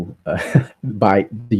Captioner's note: more laughter